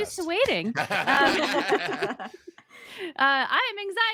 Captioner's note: laughing